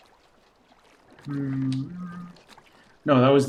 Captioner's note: hums